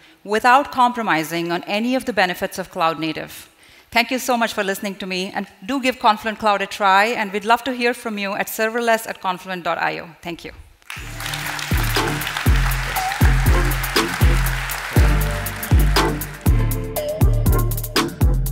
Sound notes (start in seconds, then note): 10.8 audience applauding; 11.0 twitchy music